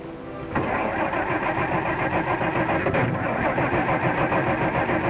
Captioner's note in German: Motor stottert